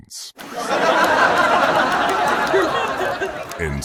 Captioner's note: audience laughing